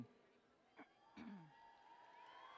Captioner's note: cheers